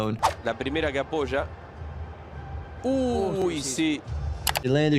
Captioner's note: commentator talks in foreign language